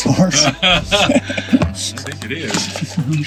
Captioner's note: everyone laughing